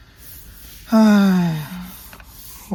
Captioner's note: deep sigh